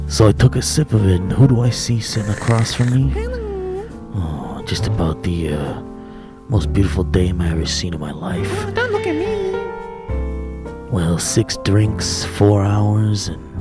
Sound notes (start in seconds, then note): 2.1 slurping noise